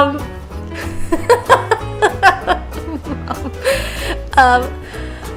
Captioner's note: laughs